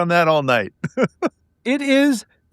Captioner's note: laughing